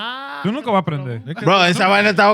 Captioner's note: speaking Foreign Language